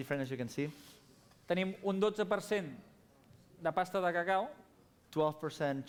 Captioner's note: non-english speech